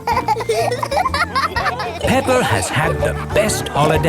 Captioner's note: laughing